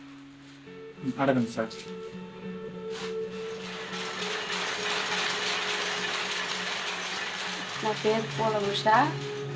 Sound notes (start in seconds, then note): 3.2 the steady clacking sound of the handloom